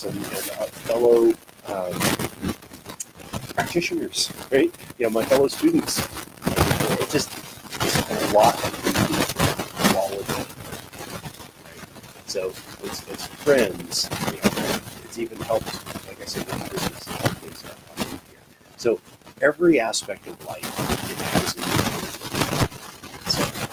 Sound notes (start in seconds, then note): 16.6 static interference drowns out sound